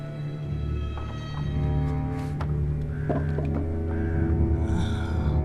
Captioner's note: shuffling wood